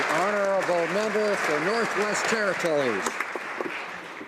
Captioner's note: some Applause